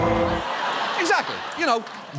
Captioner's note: audience laughs